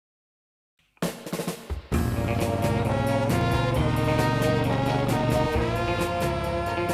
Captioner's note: energetic music; motorcycle engine rumbling